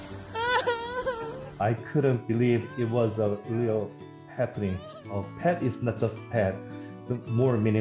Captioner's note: crying